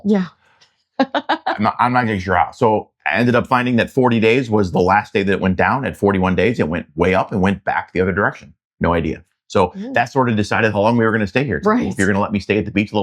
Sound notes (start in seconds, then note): 1.5 laughs